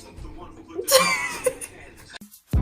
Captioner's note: abrupt chuckling